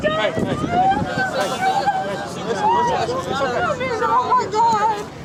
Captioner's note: crying